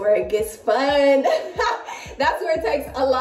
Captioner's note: laughs